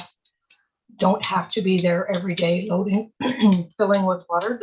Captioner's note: clears throat